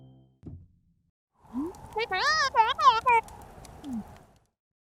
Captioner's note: Madeline’s mumbling voice